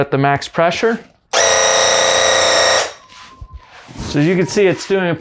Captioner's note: paint gun blasting